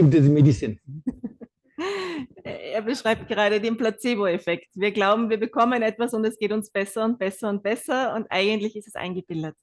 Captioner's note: German live translation